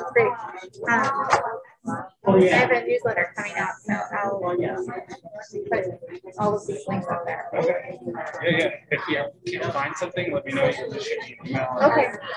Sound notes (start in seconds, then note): 7.0 group chatting